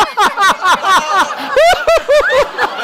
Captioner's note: laughs